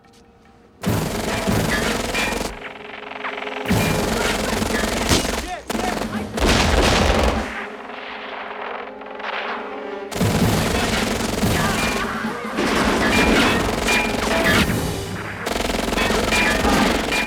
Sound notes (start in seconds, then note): 3.9 men Shouting; 7.1 radio: Gunshots